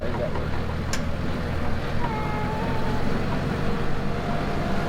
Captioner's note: tractor driving